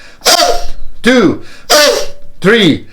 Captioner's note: deep breaths